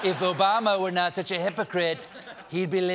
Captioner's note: laughter